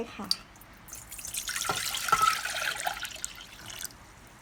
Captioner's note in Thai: เสียงรินน้ำมะพร้าวอ่อนลงหม้อ